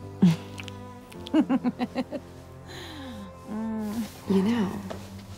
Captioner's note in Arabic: يضحك